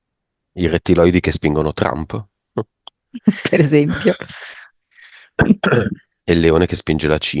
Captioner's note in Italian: risate; schiarire la voce